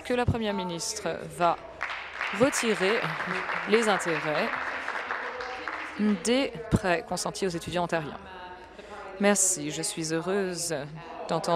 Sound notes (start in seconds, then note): 5.4 applause